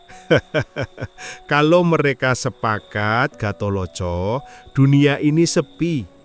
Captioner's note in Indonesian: tertawa